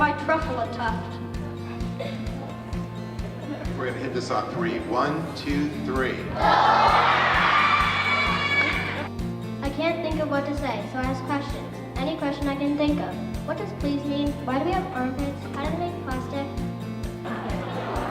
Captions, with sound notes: out my Truffula tuft? (mellow guitar music) - We're gonna hit this on three. One, two, three. (pupils shouting) - I can't think of what to say, so I ask questions. Any question I can think of. What does please mean? Why do we have armpits? How do they make plastic?